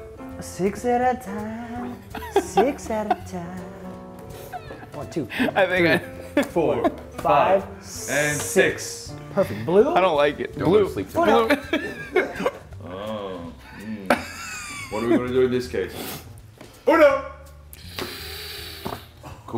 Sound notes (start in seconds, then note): 12.8 laugh